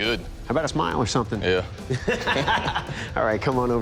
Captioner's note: laughter